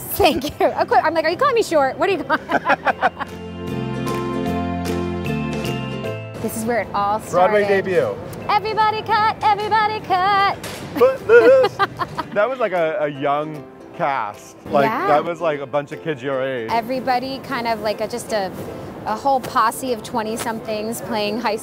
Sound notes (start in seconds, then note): 2.2 laughing; 3.9 upbeat music; 10.9 laughing